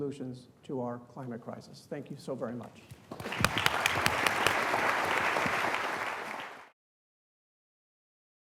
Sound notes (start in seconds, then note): 3.1 audience applauding